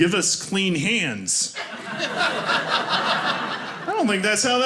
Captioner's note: audience laughing